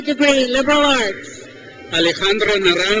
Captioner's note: crowd cheers